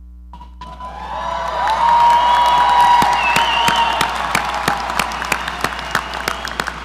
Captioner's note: audience cheering; audience applauding